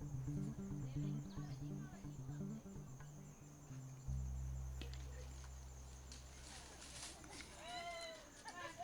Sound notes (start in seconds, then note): 5.8 indistinct chatter